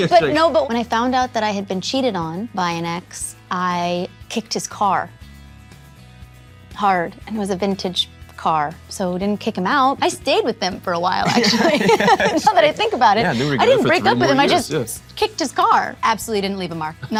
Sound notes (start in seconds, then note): 11.2 both laughing